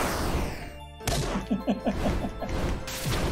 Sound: laughs

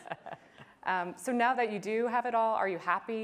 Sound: laughter

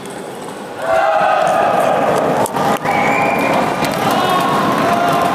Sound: applause

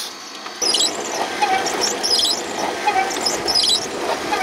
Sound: machine squeaking

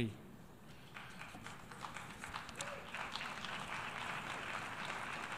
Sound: clapping

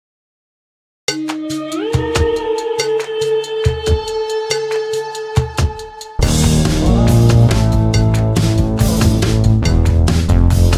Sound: sound of caution

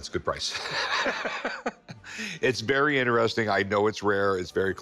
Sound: laughs

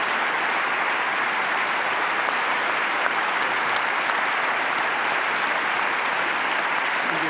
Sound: applause

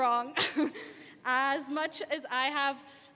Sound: laughing

